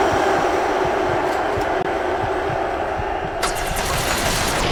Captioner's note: audacious cheering